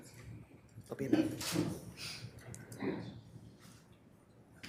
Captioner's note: camera clicking